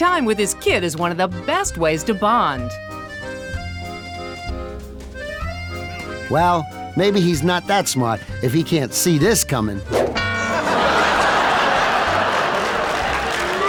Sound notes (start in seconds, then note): 3.1 accordion music; 10.3 audience laughing